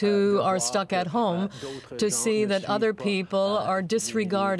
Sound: speaking french

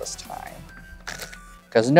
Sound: cards riffling

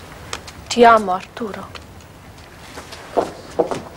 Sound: speaks Italian

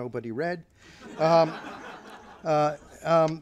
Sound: laughter

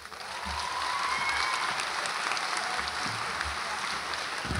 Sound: audience applauds

